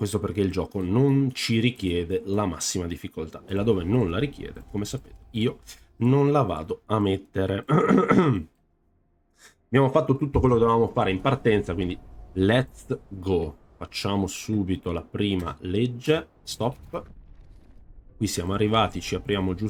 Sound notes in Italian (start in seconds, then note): 7.7 schiarire la voce